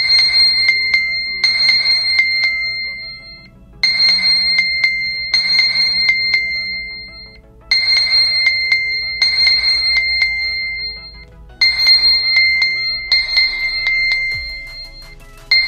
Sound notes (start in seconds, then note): 3.7 ear piercing sound; 11.4 ear piercing sound intesifies